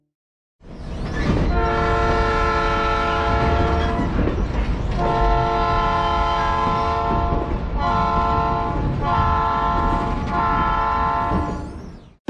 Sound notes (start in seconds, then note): 1.1 train Horn